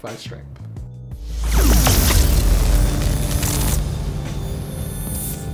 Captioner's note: transitioning swoosh